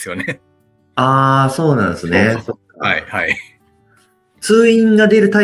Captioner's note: laughs